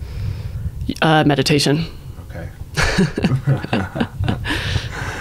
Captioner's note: laughing